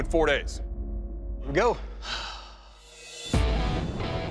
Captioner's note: sighs; lively rock music